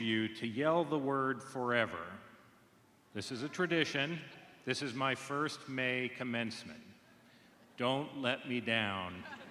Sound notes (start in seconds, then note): 6.3 laughter